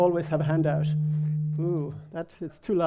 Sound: loud humming

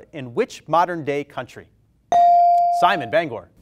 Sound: bell rings

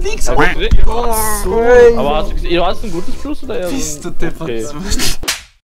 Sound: laugh

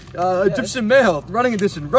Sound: none

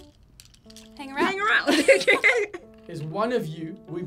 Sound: laughs

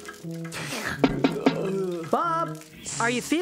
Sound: sniffs; knocking on Glass

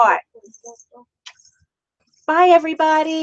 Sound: kissing

